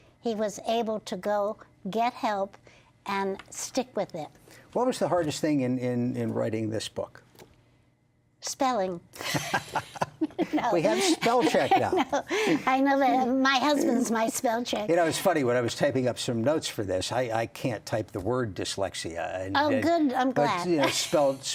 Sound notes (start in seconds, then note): 13.0 laughter